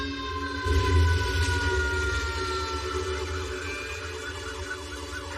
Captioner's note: sirenen wailing; flamemes crackling